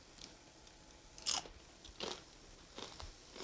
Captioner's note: tortilla crunches